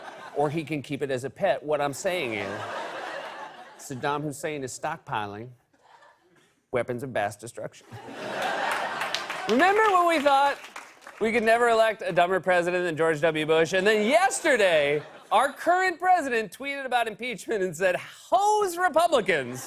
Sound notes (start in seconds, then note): 7.9 laughter and applause; 9.5 normal voice